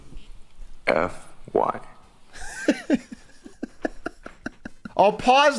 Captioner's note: laughs